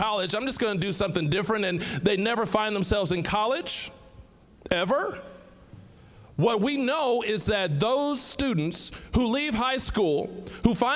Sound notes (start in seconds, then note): none